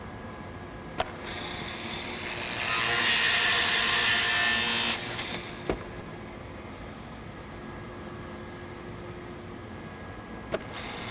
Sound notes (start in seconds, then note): 0.9 machine whirs